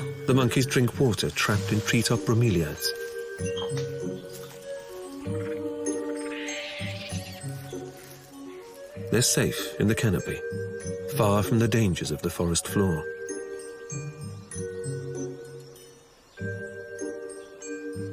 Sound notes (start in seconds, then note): 5.9 screeching; 13.3 playful music